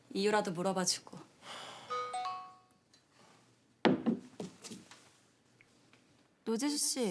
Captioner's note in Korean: 휴대전화 문자 수신음